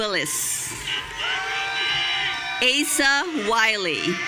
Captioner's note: audience cheering